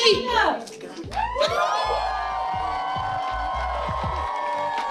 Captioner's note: audience cheering